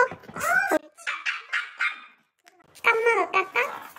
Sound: laughing

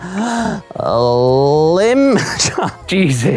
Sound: laughs

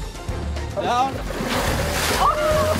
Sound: background music; big water splashing noise; people in clip exclaiming/laughing; background music

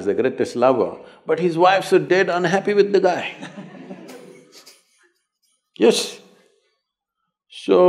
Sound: laughter

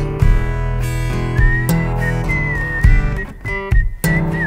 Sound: whistling

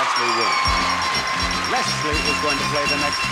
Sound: audience cheering

